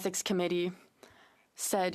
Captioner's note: speaking in French